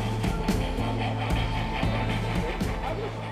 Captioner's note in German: Regelmäßiges Schnaufen